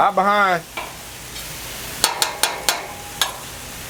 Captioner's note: metal clacks